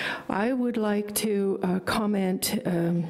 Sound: none

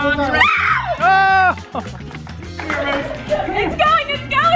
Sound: yells

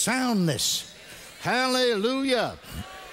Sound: congregation responds

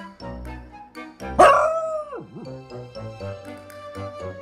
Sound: Oliver barks and howls

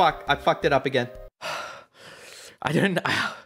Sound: sighs exasperatedly; sighs

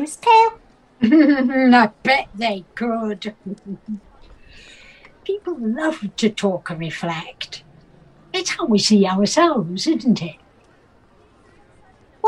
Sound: laughs

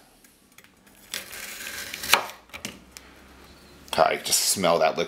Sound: crunching

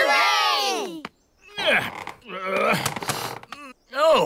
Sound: grunts

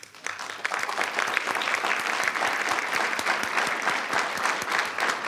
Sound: students applauding

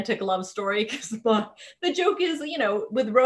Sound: chuckling

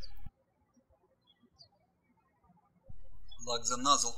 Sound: birds chirping

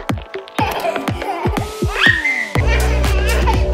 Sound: giggling

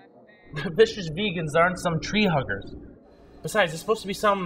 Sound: laughs

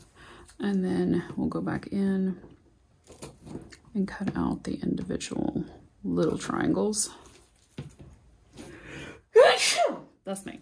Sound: sneezing

